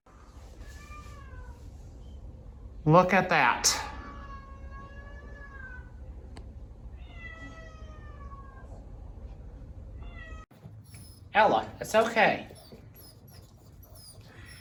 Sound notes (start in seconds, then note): 0.1 Caprice meows inside bathroom; 4.4 Caprice continues meowing; 4.4 Ella whimpers; 13.8 Ella continues whimpering